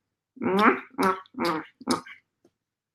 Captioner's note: kisses